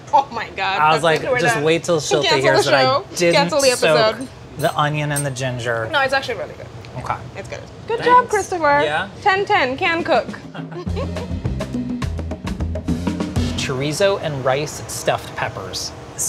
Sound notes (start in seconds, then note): 9.9 percussive music; 10.5 both laugh